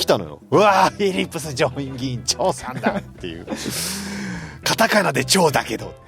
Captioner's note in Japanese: 笑い